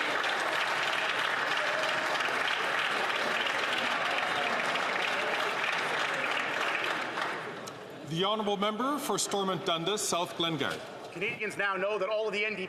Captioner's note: some Applause